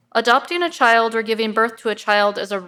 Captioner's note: none